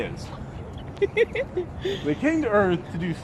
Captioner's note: camerawoman laughing